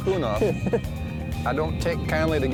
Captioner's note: laughs